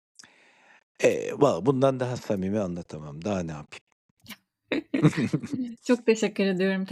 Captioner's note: laughs